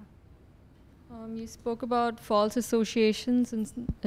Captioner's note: voiceover